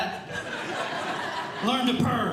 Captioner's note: audience Laughing